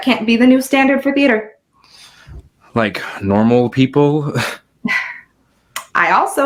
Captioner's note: scoffs